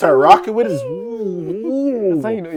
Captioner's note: screaming